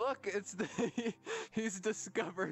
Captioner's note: laughing